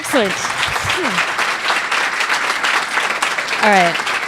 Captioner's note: audience applauding